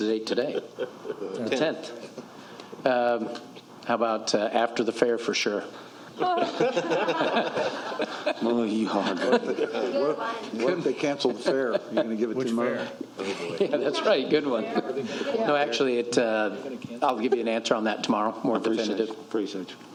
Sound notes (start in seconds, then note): 11.1 laughter